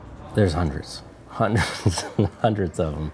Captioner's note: chuckles